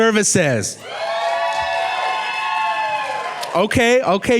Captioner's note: clapping and cheering